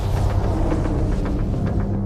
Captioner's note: wind whooshing